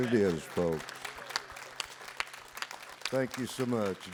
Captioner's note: audience applauds